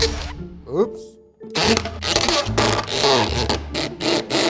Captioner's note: drilling